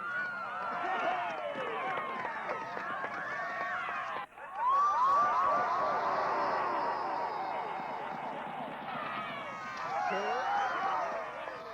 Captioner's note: cheering